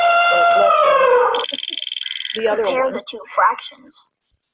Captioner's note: elephant trumpeting; wheel clicking; voiceover